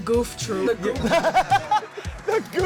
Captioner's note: everyone laughs